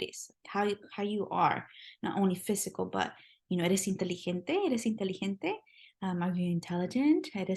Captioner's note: spanish